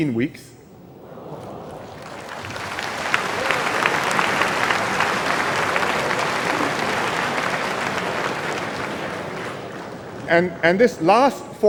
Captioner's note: applause and cheers